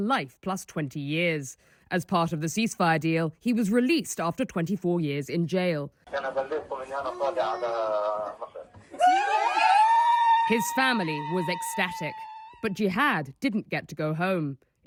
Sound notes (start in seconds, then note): 8.9 cheering